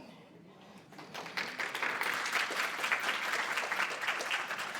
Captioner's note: audience applauding